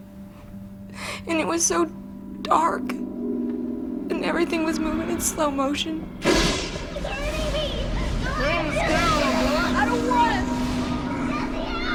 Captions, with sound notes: And it was so dark. And everything was moving in slow motion. [Thunder & lightning] Jesse! I don't want...